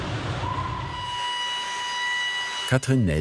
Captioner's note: drilling noises